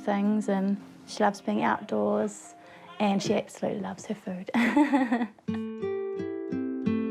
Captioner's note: laughs; pensive guitar music